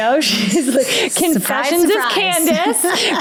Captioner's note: laughing